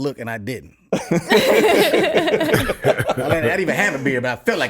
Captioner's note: laughs